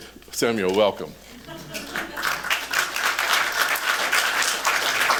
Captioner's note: applause